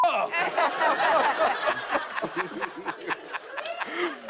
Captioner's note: laughter